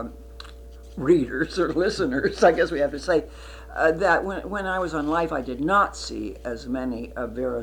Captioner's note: laughs